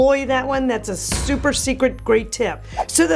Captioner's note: stamp stamping